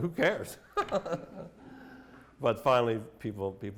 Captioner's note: laughter